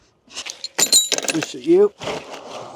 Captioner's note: metal clanking